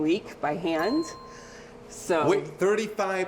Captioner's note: bell ringing